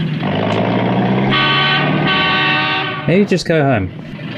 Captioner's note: truck horn blaring